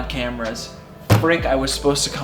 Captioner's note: light thud